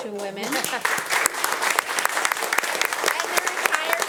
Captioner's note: attendees applauding